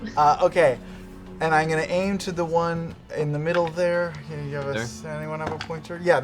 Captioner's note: laughs